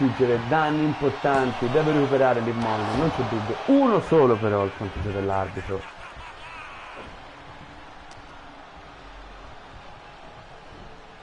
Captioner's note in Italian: Applauso